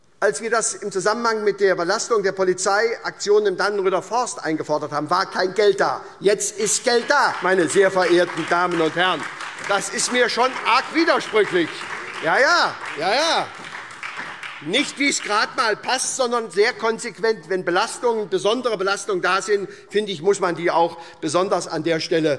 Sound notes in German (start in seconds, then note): 6.4 Beifall SPD und Freie Demokraten